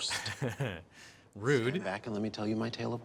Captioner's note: chuckles